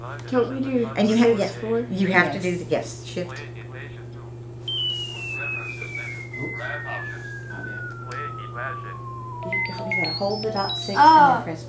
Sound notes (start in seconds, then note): 4.4 calculator Sounds